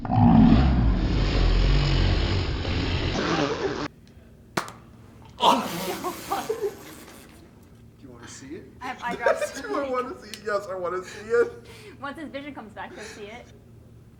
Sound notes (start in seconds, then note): 8.8 laughs